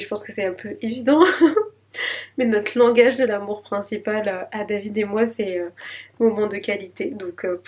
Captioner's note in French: rires